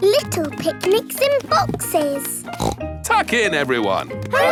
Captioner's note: snorts